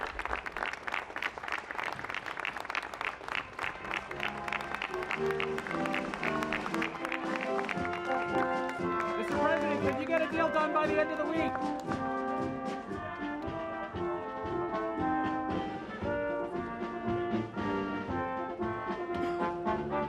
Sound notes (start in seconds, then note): 4.2 applause